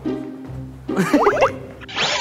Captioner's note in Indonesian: Tertawa